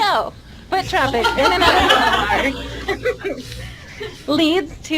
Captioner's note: laughing